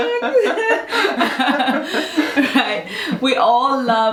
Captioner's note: both laughing